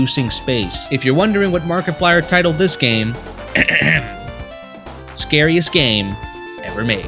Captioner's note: clears throat